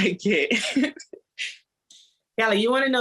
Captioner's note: laughter